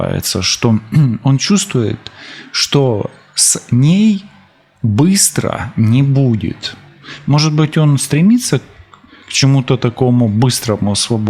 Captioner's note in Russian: откашливается